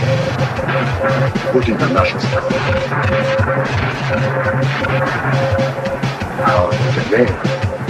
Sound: radio static, noise, morse code signal

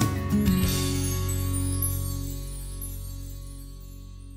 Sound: bells chiming

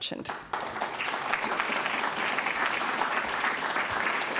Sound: audience applauds

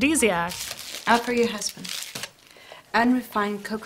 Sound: plastic rattling

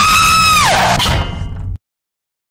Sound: clang!

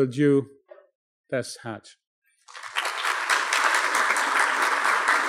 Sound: applause

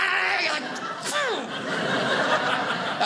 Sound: audience laughing

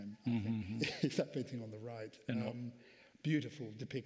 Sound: laughs

